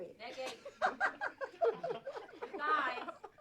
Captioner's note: giggling